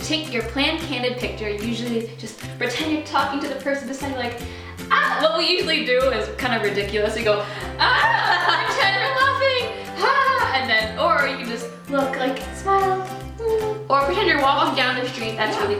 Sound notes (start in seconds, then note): 4.9 shouts; 7.6 laughter; 7.6 both shouting; 10.1 mimics laughter; 13.3 sighs